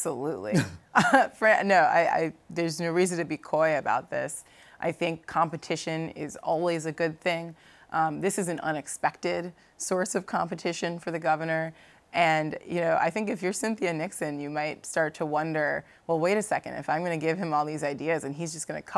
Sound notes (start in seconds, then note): 0.9 laughter